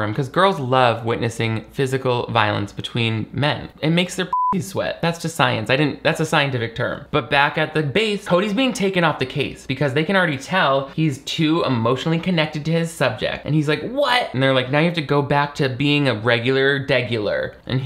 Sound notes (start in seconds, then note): 4.3 beep